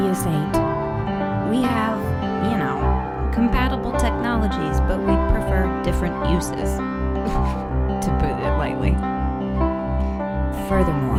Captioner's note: laughs